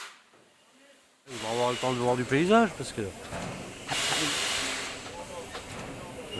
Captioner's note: laughs